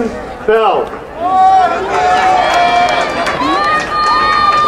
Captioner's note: crowd cheering